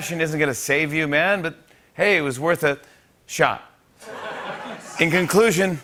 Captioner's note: laughter